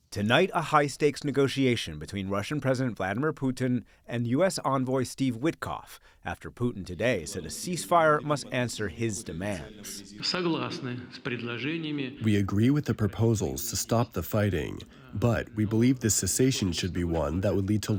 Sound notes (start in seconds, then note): 12.9 through translator